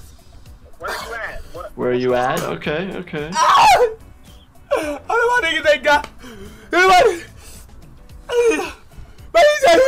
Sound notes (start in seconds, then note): 3.3 screaming; 6.5 wailing